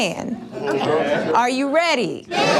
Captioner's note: crowd